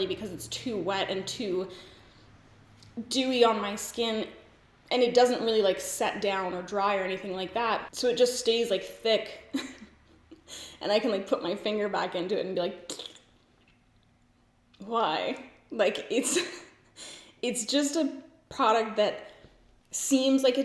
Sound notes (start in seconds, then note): 9.5 giggles; 12.7 blows a raspberry; 16.2 giggles